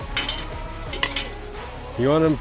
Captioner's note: metal clinking